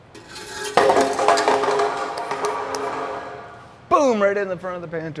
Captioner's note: exhaust pipe clatters